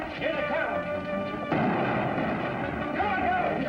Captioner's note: gunshots